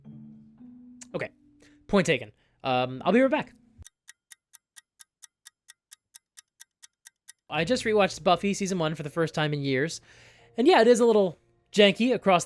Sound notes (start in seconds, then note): 3.8 ticking clock